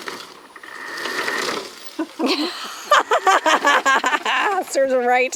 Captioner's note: laughs